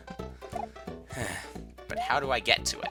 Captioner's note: sigh